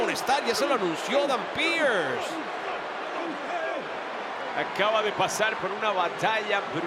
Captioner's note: applause